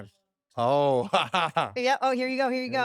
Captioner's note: laugh